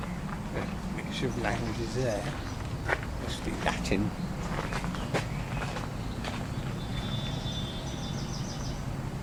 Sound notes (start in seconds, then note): 6.9 car Horns